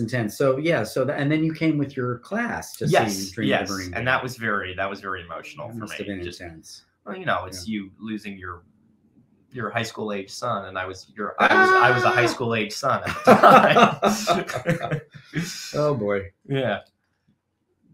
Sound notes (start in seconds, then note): 13.0 laughing